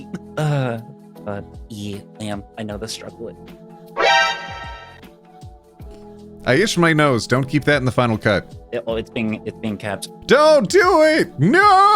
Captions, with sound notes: But yeah, Lamb, I know the struggle with it. (bell ringing) I itched my nose, don't keep that in the final cut. Oh, it's being, it's being kept. Don't do it, no.